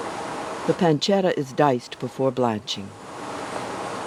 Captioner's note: voiceover